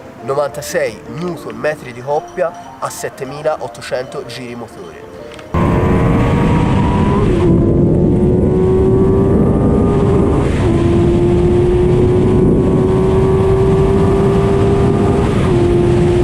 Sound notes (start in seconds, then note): 5.5 engine roaring